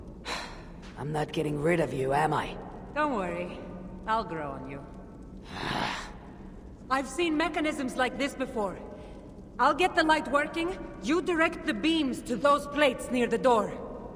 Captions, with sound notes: (sigh) I’m not getting rid of you, am I? Don’t worry... ...I’ll grow on you. (scoff) I’ve seen mechanisms like this before. I’ll get the light working. You direct the beams to those plates near the door.